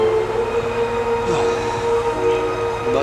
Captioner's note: Owen Sighs